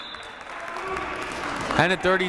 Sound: whistle blowing

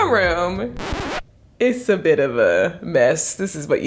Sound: record scratching

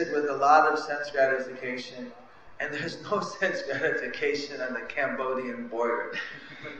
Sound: laughter

